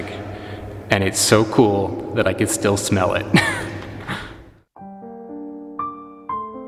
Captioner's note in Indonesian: tertawa